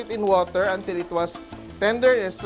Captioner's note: sizzle